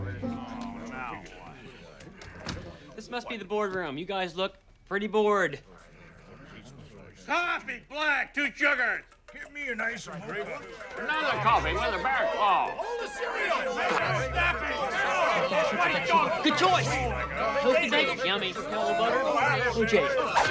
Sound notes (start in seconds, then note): 14.2 all shouting at once